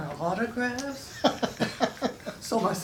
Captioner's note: chuckles